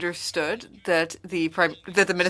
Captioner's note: speaking French